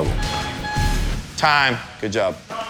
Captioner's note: timer chimes